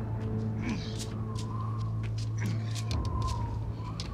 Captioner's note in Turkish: Rüzgâr esiyor